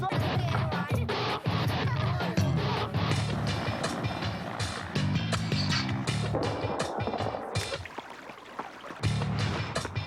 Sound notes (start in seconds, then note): 0.1 dramatic instrumental music; 2.2 helicopter rumbling; 6.3 gunfire exploding; 6.4 water trickling